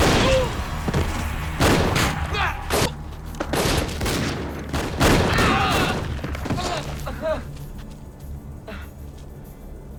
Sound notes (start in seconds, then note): 1.5 gunshots banging; 6.4 drug runners groaning